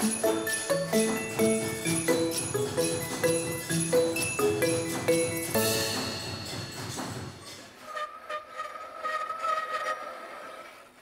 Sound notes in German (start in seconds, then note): 0.0 fröhliche Xylophon-Musik; 7.4 Die Bremsen quietschen